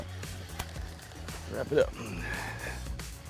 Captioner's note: pat